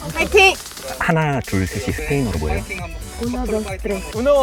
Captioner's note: whispers